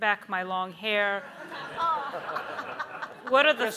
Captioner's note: everyone laughs